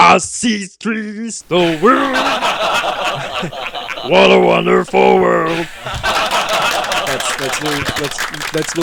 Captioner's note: laughing!